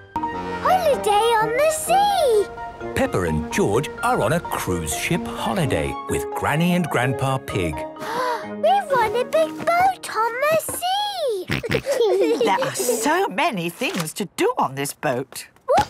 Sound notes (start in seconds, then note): 8.0 gasps; 11.4 snorts, giggles